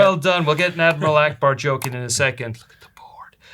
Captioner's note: whispers